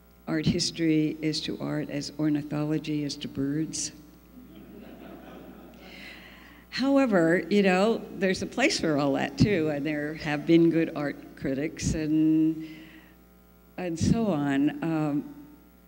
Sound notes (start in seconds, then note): 4.4 laughter